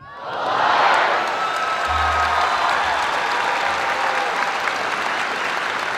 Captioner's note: applause